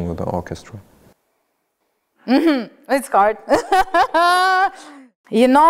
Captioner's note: laughs